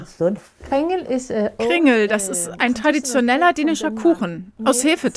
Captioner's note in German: englisch